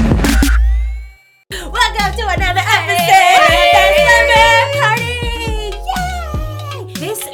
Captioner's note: cheering